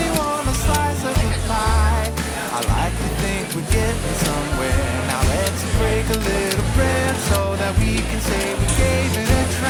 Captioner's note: music plays over the clicking of punching every button on the soda machine